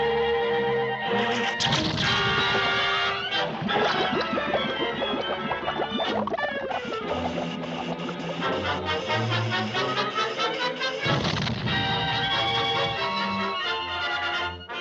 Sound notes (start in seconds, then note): 1.7 electricity zaps; 3.7 light dramatic music; 3.7 water bubbling; 8.5 suspenseful music; 11.1 explosion booms